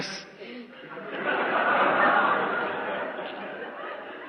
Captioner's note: laughter